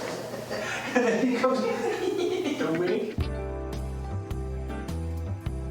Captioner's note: laughing; slow music